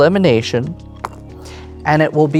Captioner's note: pen rattles